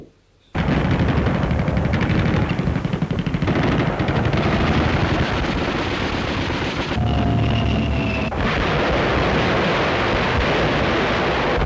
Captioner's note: sounds of gunfire